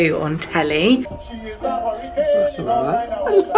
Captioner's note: laughing